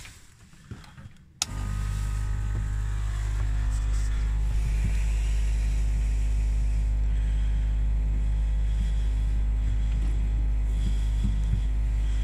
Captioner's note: the sound of a water pump